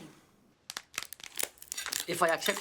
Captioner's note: lobster claw cracking